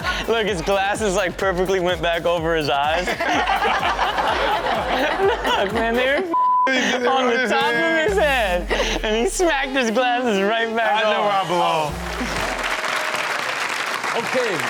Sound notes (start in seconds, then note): 3.0 everyone laughing; 6.3 beep; 12.8 audience applauding